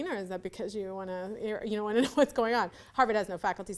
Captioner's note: laughs